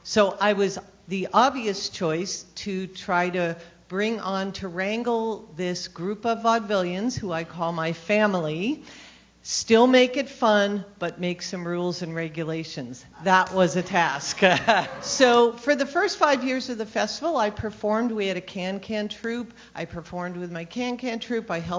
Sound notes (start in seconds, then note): 13.4 laughs